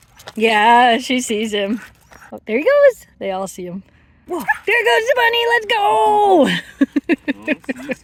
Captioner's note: laughter